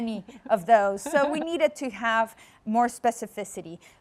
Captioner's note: laughs